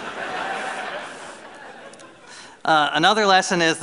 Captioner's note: laughter